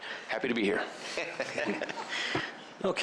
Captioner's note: laughter